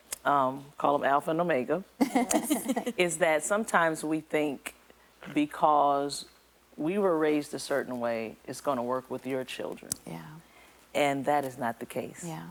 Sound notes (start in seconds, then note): 2.0 laughing